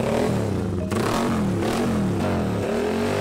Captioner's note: motorcycle engine